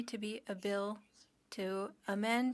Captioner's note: speaking French